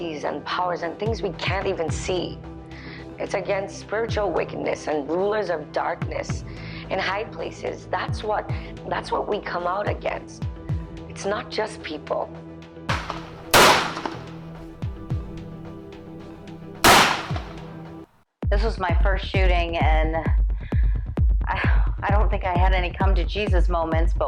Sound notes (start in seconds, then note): 12.9 gunshots blasting; 14.1 suspenseful music continues